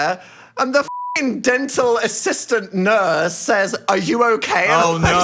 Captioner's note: beep